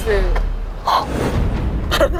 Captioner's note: gasp